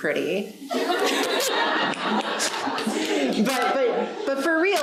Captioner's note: audience laughing